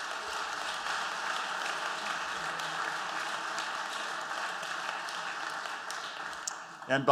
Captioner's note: applause